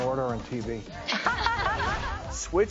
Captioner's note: laughing